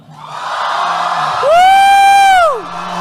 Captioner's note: cheering